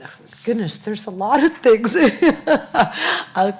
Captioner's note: laughs